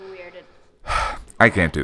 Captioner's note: sigh